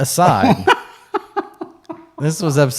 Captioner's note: giggling